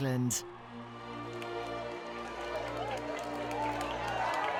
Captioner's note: crowd clapping